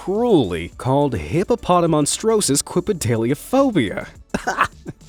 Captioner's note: laughs